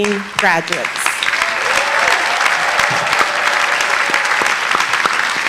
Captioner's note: audience applauding